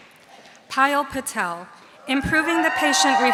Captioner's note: audience cheering